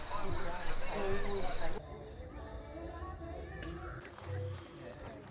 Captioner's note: birds chirping; crickets chirping